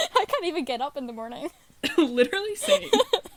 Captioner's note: laughter